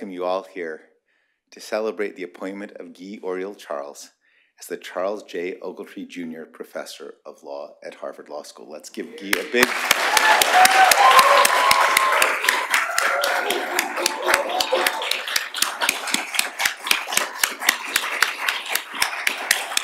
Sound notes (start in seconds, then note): 10.0 applause